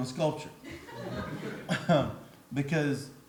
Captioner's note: audience laughs